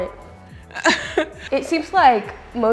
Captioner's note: laughs